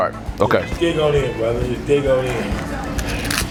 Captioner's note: male Voice